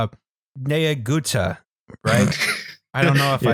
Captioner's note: snorts